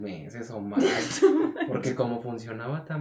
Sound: laughter

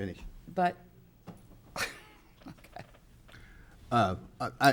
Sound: laughs

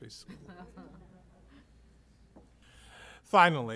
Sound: laughter

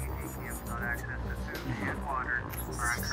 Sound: radio broadcasting; grunts with pleasure; radio broadcasting

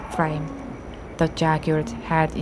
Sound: the roar of a jaguar in the distance

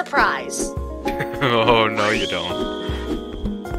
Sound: chuckles

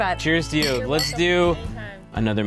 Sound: clink

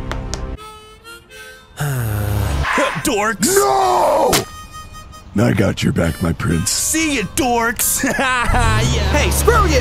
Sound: Noctis sighs

